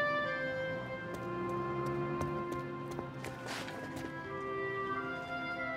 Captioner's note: footsteps plodding